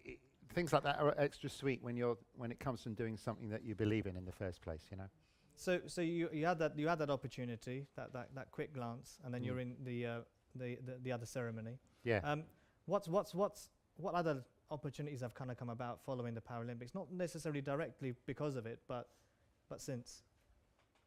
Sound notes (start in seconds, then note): none